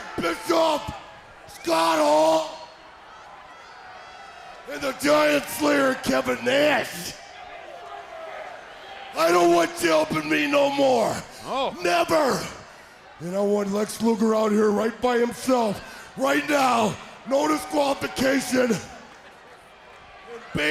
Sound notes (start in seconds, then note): 7.0 crowd chatter